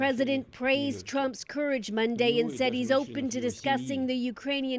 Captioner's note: speaking alternate language